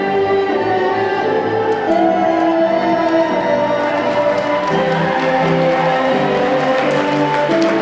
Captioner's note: audience cheering; audience clapping